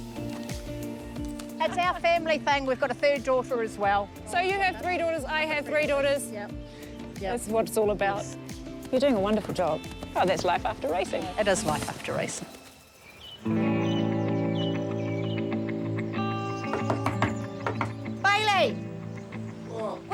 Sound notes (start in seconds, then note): 14.0 birds chirp; 16.6 knock at door